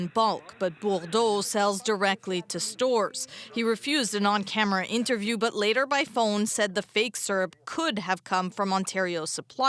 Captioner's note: speaking French